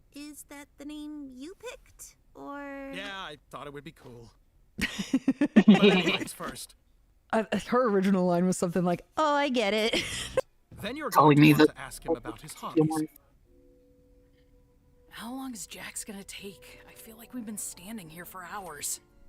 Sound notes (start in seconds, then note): 4.8 laughing; 9.9 laughs